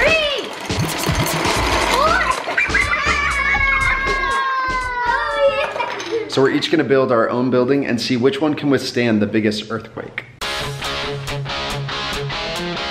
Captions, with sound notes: - Three! - Four! (laughter) - So we're each gonna build our own building and see which one can withstand the biggest earthquake. (rock music)